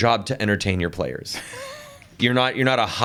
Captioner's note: chuckles